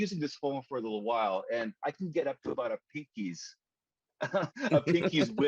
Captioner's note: laughs